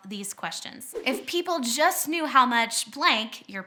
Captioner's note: whooshing